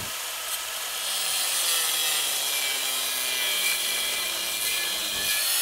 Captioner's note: grinder whirring